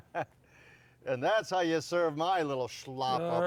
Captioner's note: laughs